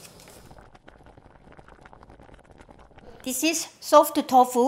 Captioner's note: water bubbling